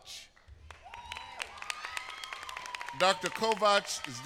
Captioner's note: applause